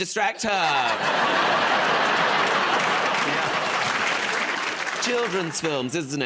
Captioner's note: laughter